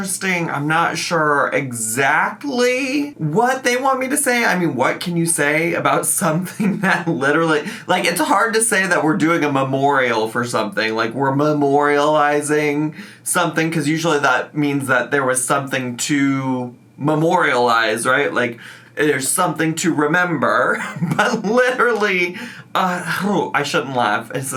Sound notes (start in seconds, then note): 20.3 laughs